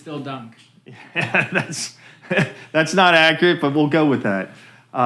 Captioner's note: laughing